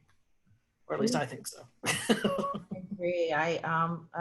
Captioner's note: laughs